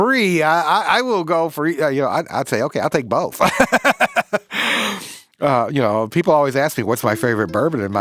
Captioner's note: laughs